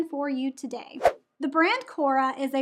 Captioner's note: air whooshes